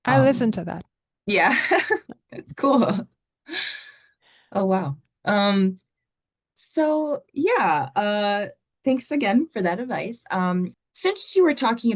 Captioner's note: laughing